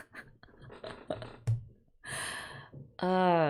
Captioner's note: laughs